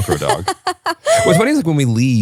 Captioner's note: laughs